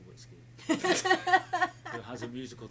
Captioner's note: laughing